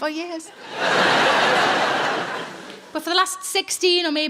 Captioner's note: audience laughing